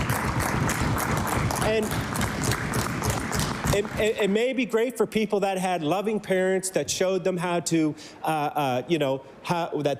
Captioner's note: applause